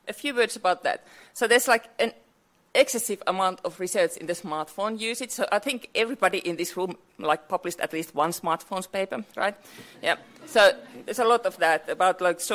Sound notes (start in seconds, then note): 10.3 audience laughs